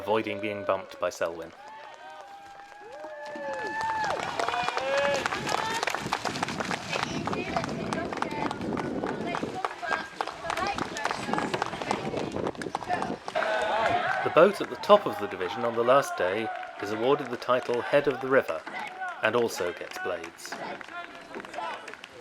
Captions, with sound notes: avoiding being bumped by Selwyn. [applause] The boat at the top of the division on the last day is awarded the title Head Of The River, and also gets blades.